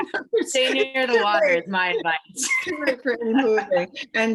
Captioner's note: laughs